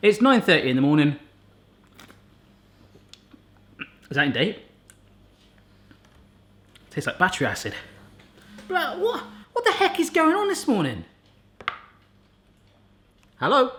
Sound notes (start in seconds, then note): 8.4 phone buzzing